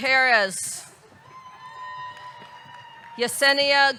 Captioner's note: audience cheering; audience clapping